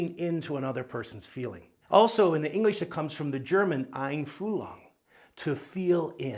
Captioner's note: speaks German